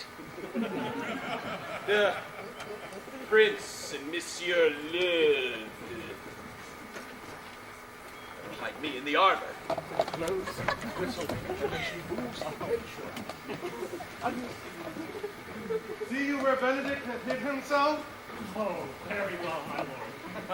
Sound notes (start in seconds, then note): 0.1 distant laughing